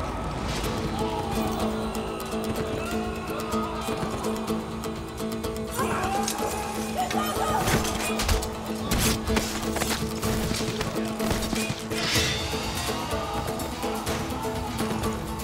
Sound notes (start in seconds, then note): 0.2 Müzik - Aksiyon; 9.3 Kılıç sesleri; 10.5 Bağrışmalar